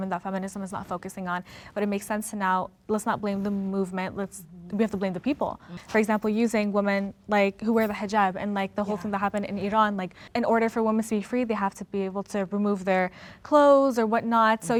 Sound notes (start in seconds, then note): none